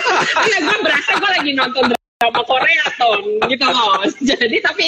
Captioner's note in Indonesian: Hahaha